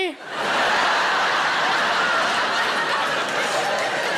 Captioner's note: audience laughs